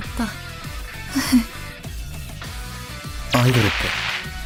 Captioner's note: giggles